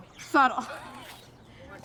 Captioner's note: chuckles